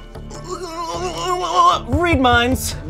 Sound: exclaiming

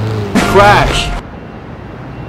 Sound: crash

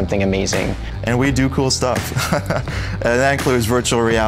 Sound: laughing

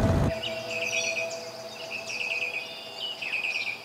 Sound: birds chirping

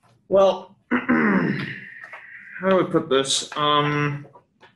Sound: clears throat

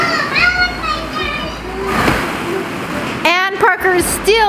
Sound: whining

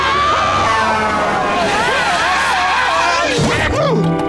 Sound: gasping, screaming; screaming

